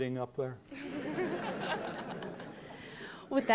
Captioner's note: laughter